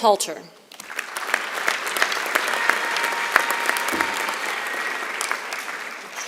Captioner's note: applause